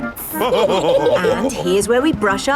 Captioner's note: all laughing